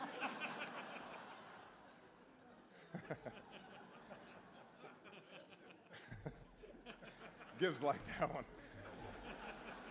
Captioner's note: laughter